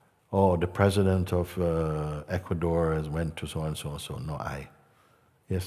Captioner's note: none